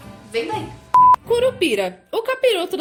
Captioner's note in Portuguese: bip